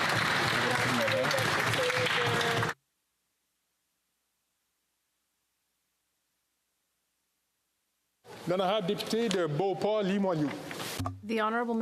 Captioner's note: applause